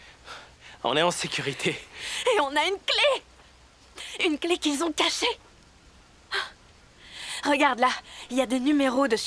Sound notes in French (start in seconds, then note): 6.3 soupirs